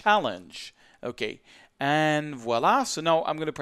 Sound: speaks in foreign language

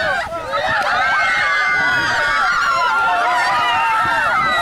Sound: shouting and yelling

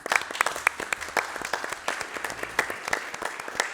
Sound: applause

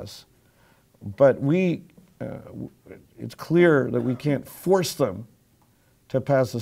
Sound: cough

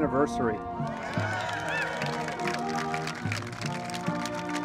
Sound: students cheering

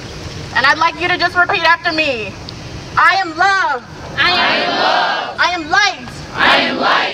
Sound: crowd repeats

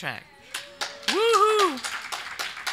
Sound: audience applauding

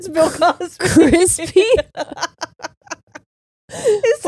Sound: both laughing

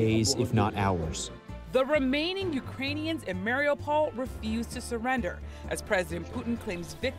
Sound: voice-over

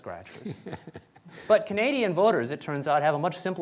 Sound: laughter

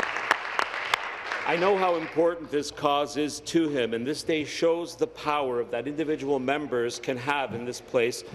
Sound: applause

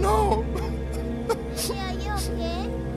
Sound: sobbing

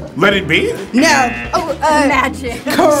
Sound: wrong buzzer rings

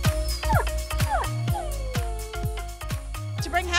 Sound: dog whining

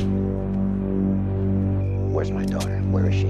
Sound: gun cocks

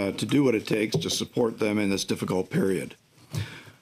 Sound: speaking french

